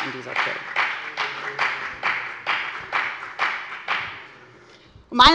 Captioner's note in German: Beifall bei der FDP